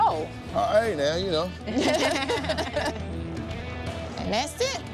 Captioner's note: laughter